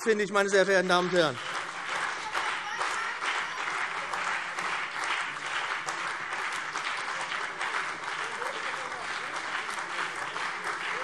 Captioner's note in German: Beifall BÜNDNIS 90/DIE GRÜNEN und CDU